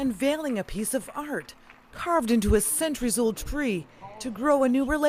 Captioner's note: applause